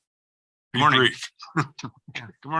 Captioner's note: laughs